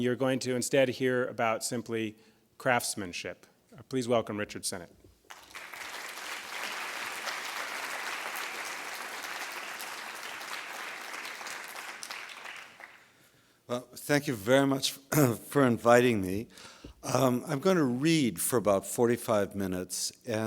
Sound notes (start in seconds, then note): 5.2 applause